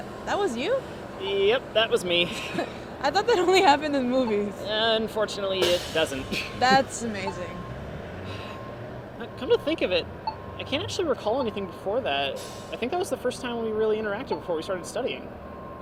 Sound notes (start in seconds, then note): 3.1 Madison laughs